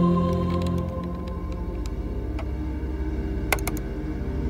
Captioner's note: computer clicking